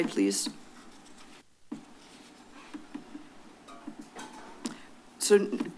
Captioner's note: silence